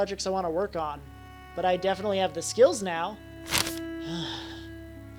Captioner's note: sighs